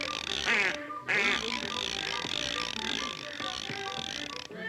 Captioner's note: meat grinder clicking; playful music; duck quacks; meat grinder clicking; playful music continues